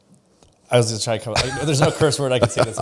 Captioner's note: laughs